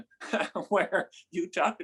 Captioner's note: laughs